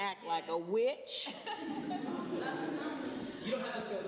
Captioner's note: laughter